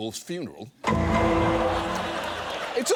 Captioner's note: studio audience laughs